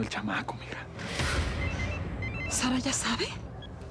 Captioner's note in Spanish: suena el celular